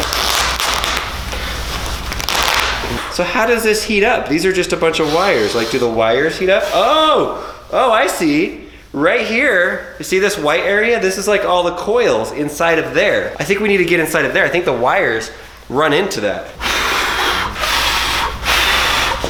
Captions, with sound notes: (ripping fabric) So how does this heat up? These are just a bunch of wires, like do the wires heat up? Oh, oh I see, right here, you see this white area, this is like, all coils inside of there. I think we need to get inside of there, I think the wires run into them. (blowing)